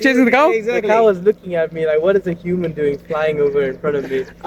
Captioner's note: laughs